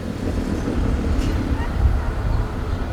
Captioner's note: street sounds